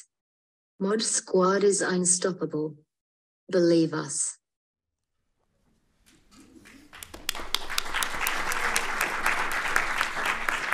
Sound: applause

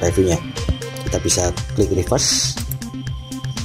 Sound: click

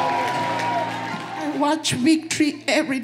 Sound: cheering

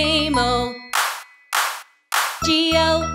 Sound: hands clap

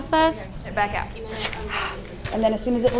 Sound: exhaling

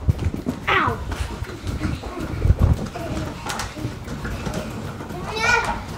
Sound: girls running excitedly

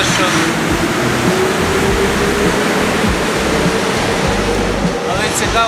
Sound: train noise

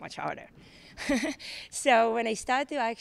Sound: laughs

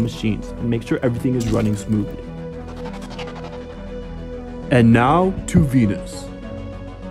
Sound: space warp noise

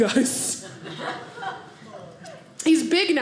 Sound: audience laughing

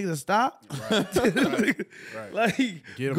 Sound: laughing

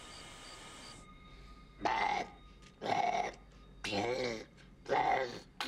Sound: growling

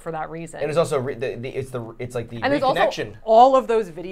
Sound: stammering

